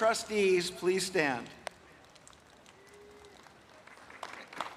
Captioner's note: applause